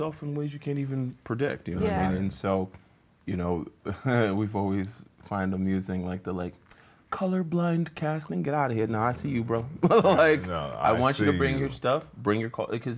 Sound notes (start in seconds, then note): 9.8 laughs